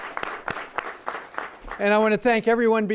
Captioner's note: applause